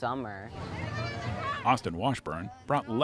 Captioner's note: background chatter